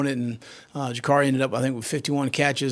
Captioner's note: none